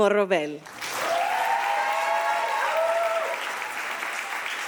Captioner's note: audience applauding